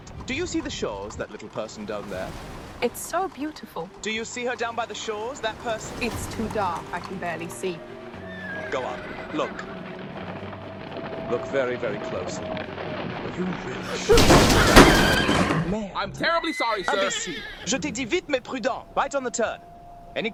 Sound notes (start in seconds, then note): 10.4 horses neigh; 14.0 carriage thuds; 16.1 horses neigh